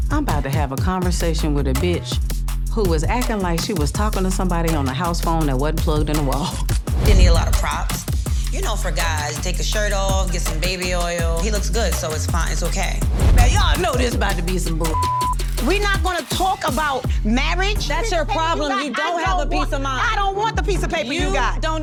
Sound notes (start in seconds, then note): 6.7 laughing; 14.8 beep